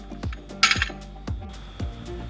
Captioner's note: snap!